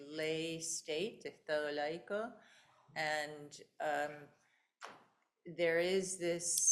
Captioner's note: speaking in foreign language